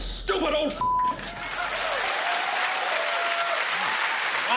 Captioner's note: cheers and applause